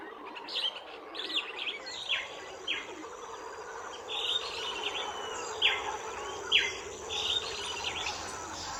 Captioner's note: forest and howler monkey sounds